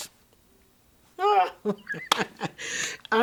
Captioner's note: laughs joyously